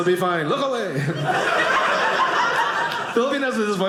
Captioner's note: audience laughing